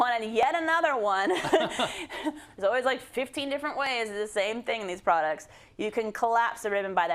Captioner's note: laugh